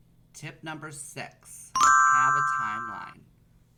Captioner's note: chiming